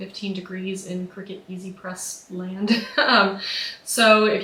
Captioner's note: laughs